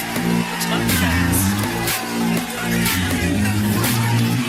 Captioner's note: Aplauze